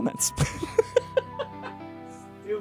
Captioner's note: laughs